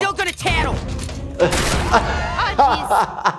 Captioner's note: ambulance thuds; laughing